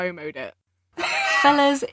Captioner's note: laughs